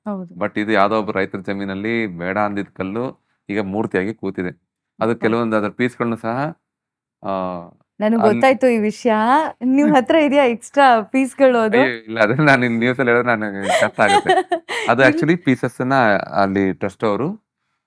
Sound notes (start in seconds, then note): 11.3 excited; 13.6 laughs